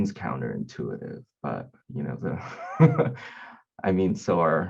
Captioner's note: laughing